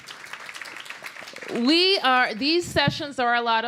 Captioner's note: applause